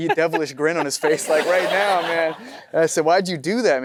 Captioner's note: audience laughing